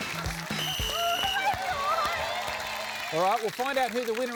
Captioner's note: blows whistle